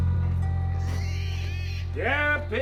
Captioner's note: pigs squealing